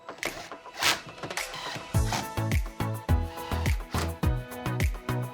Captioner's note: instrumental music; drill rattling